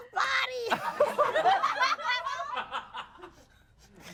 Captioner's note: everyone laughs